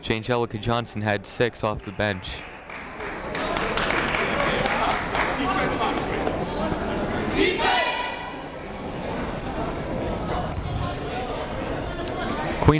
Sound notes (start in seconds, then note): 2.2 crowd clapping; 9.6 people talking in the crowd